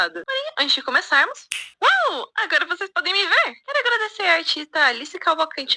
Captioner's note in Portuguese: estala os dedos